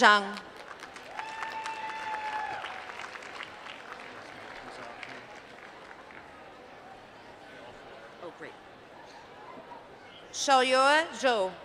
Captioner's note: applause